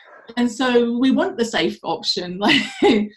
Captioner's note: chuckles